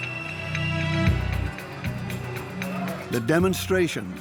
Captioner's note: whistles blow